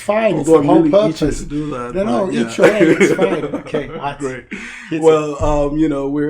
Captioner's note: both laugh